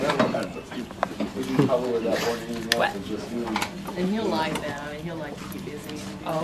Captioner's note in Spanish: Conversaciones de fondo